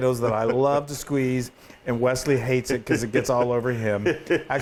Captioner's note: laugh